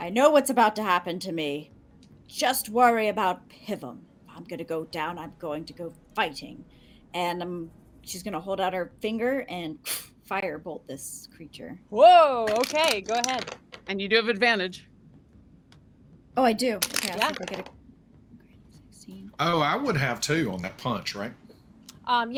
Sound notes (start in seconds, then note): 9.6 mimics whooshing; 12.4 dice rattling